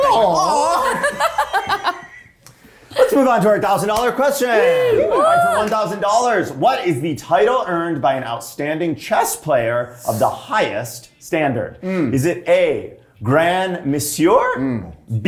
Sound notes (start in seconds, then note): 0.0 cast laughing